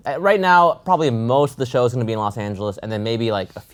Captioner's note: none